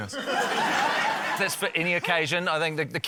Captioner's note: laughter